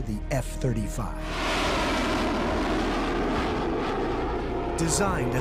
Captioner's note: jet flying over